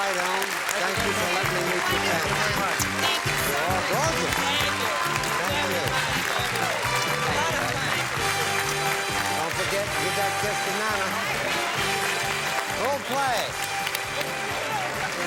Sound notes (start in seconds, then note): 7.0 applause